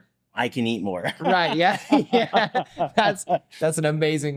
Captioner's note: both laughing